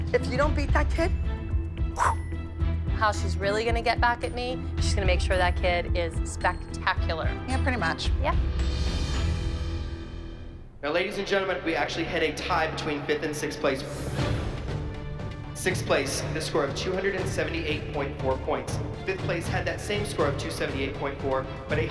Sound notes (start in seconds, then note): 1.7 whooshes